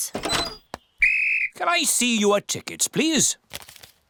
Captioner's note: blows whistle